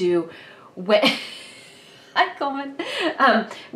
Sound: laughing

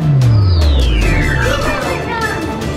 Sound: powering down

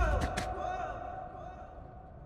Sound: echo

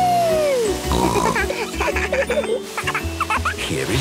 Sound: snorting; giggling; laughter

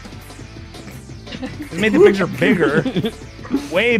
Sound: laughter

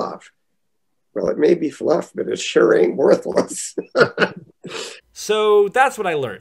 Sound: laughter

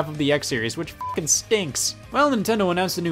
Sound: beep

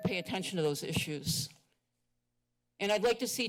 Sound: pause

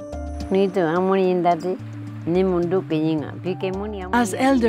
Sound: speaking native language - wao terero

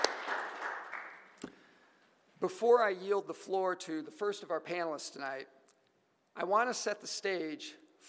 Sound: applause

